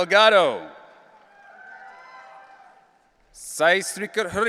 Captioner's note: audience cheering